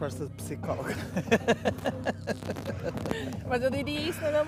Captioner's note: laughter